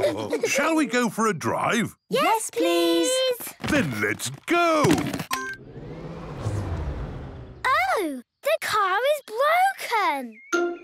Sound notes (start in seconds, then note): 0.0 all laughing; 5.3 car chimes; 5.3 whirring, whirring stops